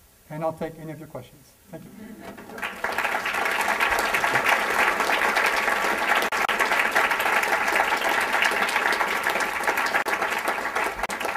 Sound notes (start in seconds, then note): 4.5 applause